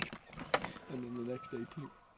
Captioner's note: elk bugling